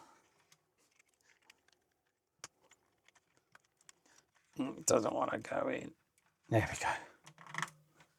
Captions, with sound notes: (Silence) Doesn't want to go in. There we go.